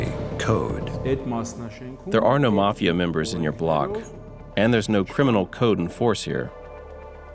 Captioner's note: voiceover